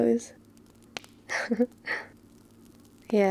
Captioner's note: laughs